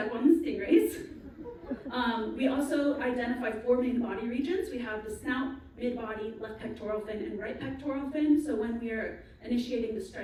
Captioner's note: laugher